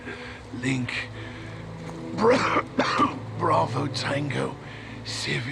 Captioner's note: coughing